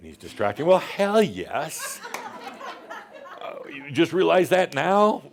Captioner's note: more chuckles